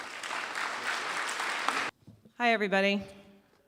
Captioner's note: applause